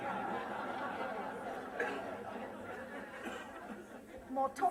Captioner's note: laughter